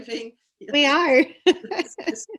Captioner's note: laughs